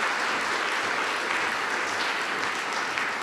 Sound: applause

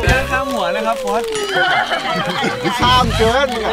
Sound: laughs

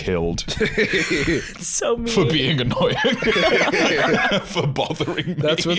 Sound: all laughing

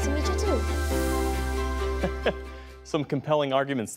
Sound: laughter

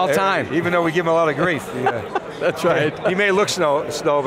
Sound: laughter

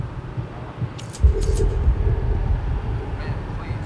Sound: intense music; garden shears snipping

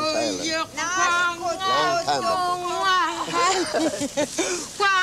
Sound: speaking yup'ik dialect

